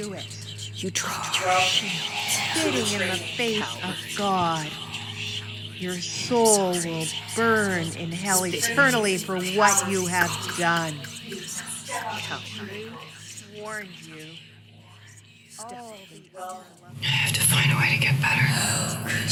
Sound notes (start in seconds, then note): 0.7 voice, distorted; 2.7 distorted voice again